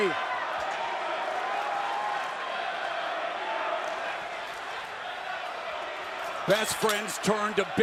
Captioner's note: crowd cheering